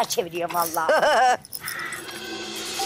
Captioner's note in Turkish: Gülme sesi